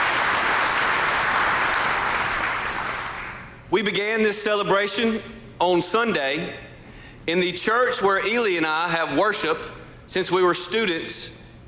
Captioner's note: applause